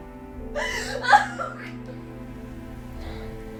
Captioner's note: Joanna sobbing